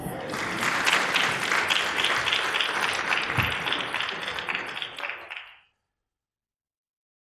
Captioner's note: applause